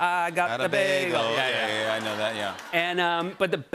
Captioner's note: laughter